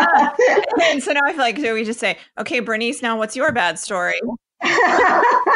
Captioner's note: everyone laughs to break the tension